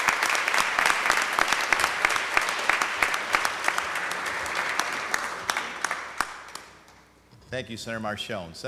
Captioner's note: applause